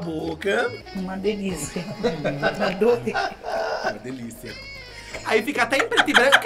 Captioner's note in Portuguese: risos